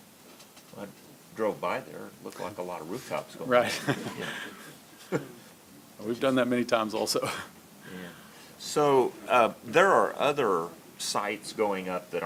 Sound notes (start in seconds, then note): 3.6 laughter; 3.6 laughs